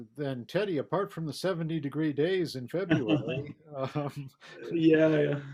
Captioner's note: laughs